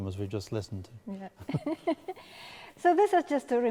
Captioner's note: laughing